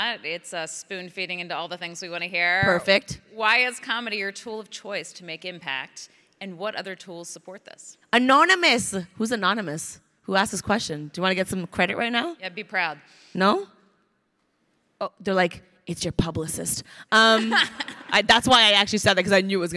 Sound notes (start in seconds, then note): 17.3 crowd laughing